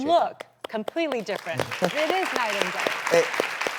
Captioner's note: audience clapping; clapping